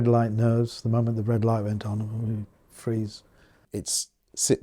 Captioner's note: stammers